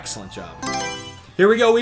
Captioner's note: Mario Selection Sound